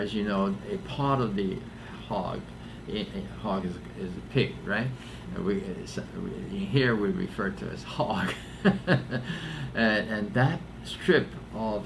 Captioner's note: laughs